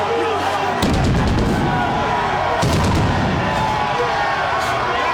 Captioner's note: crowd cheering continues; fireworks banging; crowd cheering continues